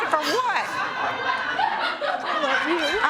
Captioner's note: laughter